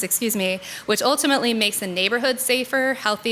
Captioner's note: none